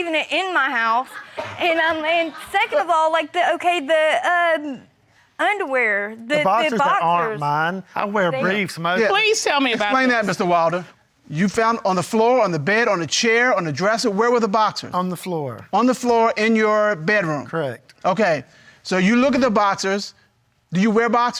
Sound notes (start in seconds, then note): 5.3 stammering